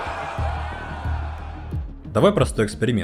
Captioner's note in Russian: ликование